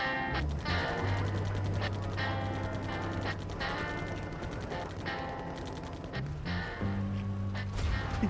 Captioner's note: gun firing, people talking on radio